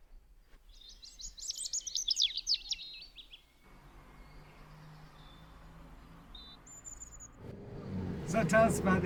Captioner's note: birds chirping; voiceover